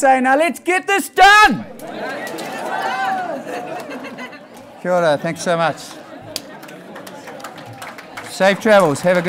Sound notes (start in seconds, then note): 3.6 audience laughing; 4.9 speaking in foreign language